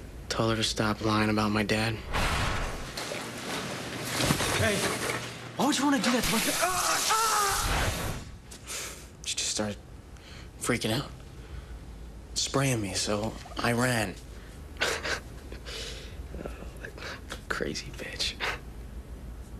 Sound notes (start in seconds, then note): 6.6 screaming; 16.3 chuckles softly